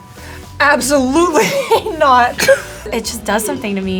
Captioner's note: laughs